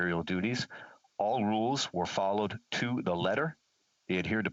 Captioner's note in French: voix de l'interprète